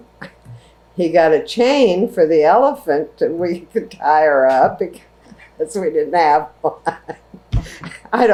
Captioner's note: laughs